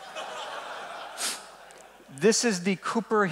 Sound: laughing

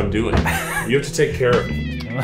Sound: laughs

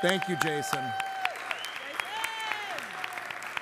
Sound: applause

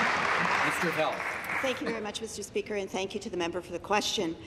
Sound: applause

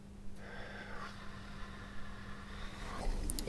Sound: exhales

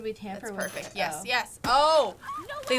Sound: Victoria squealing

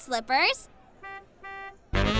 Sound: honking

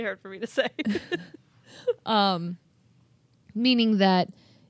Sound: chuckling

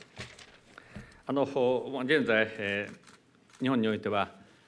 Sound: speaking japanese

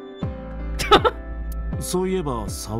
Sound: chuckles

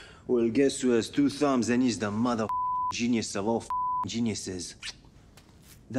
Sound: beep

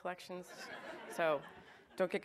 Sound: audience laughs

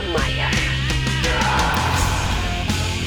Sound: screams

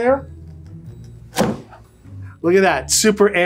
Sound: knife thudding

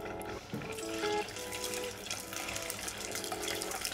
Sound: oil sizzling

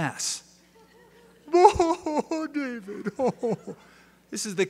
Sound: crying

